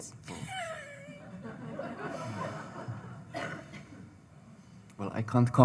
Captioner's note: audience laughing